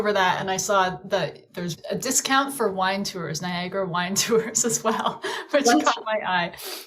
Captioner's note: laughs